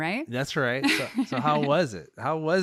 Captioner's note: laughs